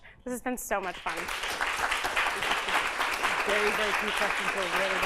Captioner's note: applause